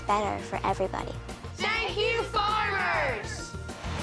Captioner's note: shouting together